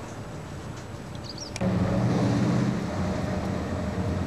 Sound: truck engine noise

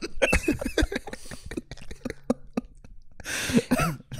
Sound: both laughing quietly

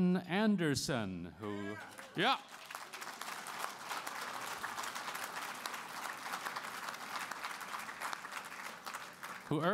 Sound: applause

